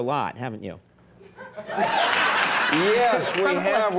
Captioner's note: audience laughing